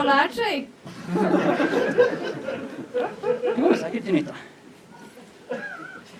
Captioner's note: laughter